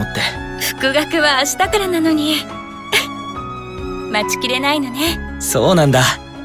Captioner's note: giggle